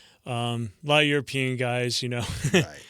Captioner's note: laughter